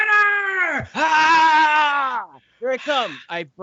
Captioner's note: groaning